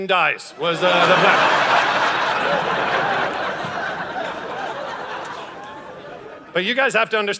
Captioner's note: audience laughing